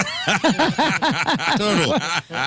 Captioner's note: laughing